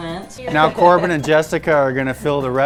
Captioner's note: laughs